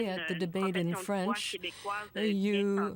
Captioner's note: speaking French